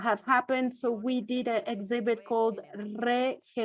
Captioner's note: foreign language